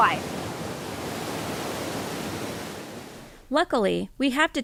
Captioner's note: waterfall flowing